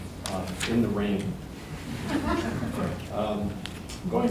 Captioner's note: all laughing